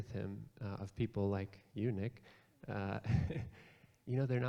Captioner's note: chuckles